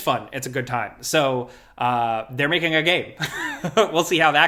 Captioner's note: laughs